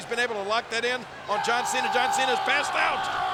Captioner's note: Rusev yelling